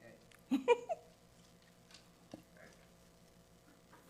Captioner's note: giggles